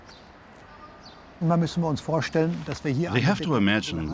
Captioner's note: speaking German